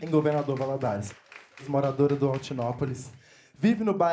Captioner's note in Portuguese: aplausos